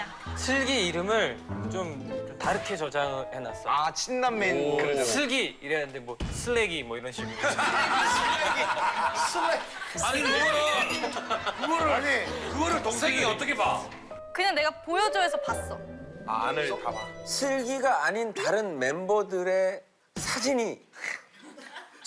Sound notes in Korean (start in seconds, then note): 7.4 푸핫!